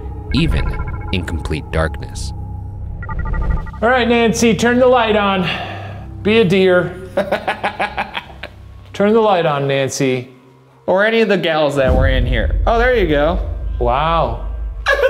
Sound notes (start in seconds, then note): 7.1 laughs